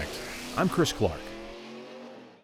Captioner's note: engine revving